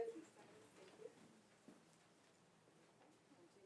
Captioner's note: speaks faintly